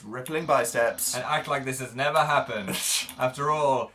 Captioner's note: laughs